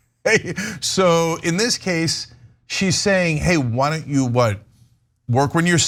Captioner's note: laugh